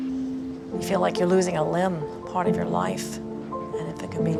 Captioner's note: voiceover